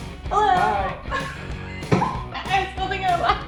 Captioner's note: laughing